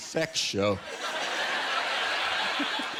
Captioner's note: laughter